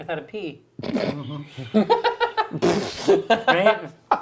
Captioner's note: laughing